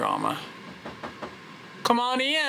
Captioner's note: knocks tapping